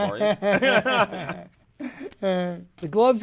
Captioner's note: both laugh